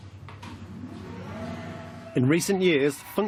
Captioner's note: machine whirling